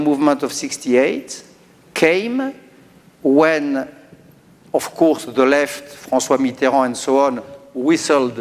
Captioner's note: speaking french